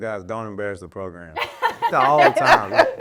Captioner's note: laughing